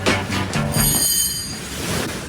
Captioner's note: bell